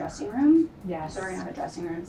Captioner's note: woman's Voice